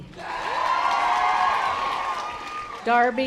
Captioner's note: audience applause